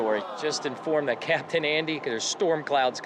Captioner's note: heart warming sigh